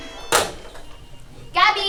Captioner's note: slams handset